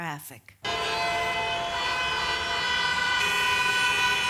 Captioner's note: traffic sounds